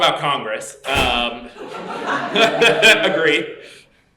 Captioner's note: laughter